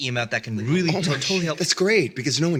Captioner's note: sarcastically